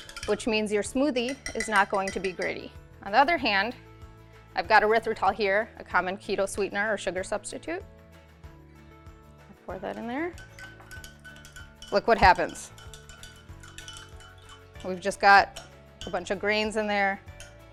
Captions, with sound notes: which means your smoothie is not going to be gritty. On the other hand, I've got erythritol here, a common keto sweetener or sugar substitute. Pour that in there. Look what happens. (spoon clinking) We've just got a bunch of grains in there.